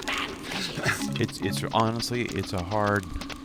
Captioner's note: laughs